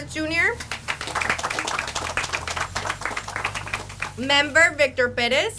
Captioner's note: audience applauds